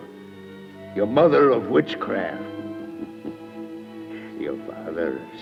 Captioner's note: chuckles